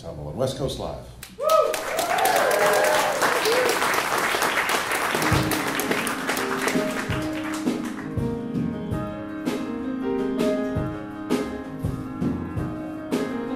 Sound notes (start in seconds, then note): 1.4 applause